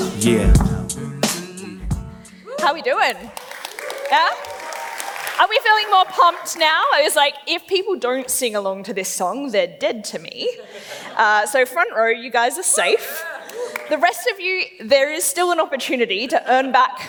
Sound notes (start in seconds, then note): 3.0 claps; 3.2 cheers; 12.8 laughs; 13.9 cheers